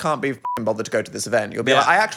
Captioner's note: beep